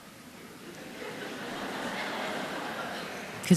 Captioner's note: audience Laughter